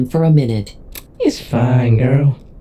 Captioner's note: Vixen clicks her tongue